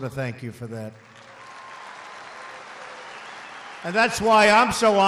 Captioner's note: applause